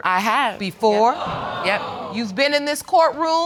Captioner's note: audience exclaiming